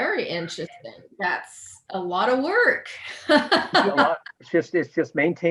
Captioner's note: laughs